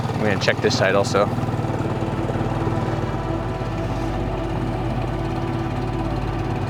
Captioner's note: gentle music; motor burbling